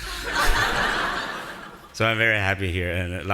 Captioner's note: audience laughing